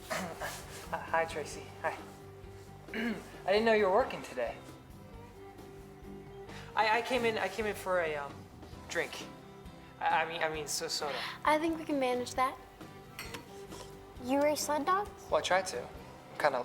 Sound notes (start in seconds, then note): 0.3 clears throat